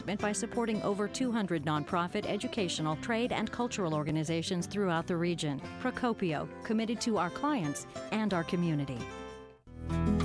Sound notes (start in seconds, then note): none